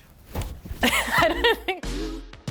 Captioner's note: laughing; upbeat music